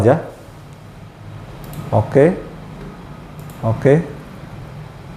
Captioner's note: clicking sound